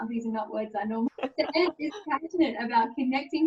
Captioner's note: laughing